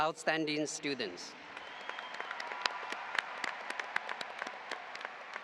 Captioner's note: audience applauding